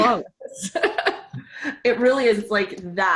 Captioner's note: laughs